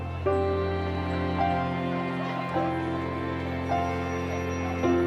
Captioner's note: people chattering